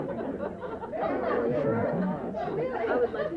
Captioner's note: brouhaha